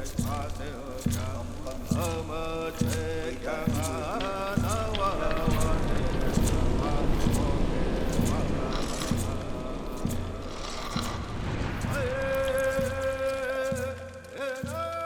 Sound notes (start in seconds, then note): 8.6 scraping; 12.5 chanting, drumming continue